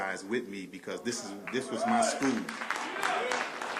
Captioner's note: applause